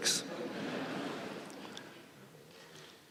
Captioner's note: laughter